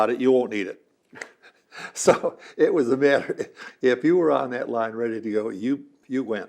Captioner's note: laughs